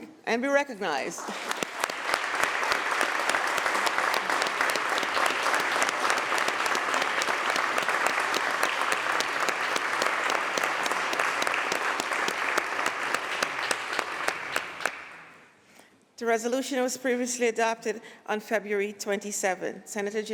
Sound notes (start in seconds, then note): 5.4 applause